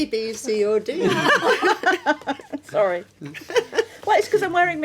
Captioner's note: laughing